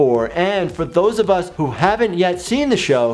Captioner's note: none